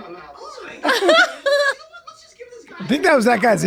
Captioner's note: they laugh